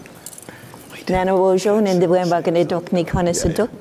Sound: foreign speaking

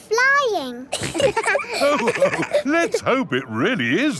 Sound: all laughing

